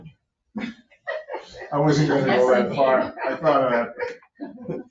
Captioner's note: laughing